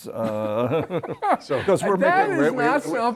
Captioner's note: laughter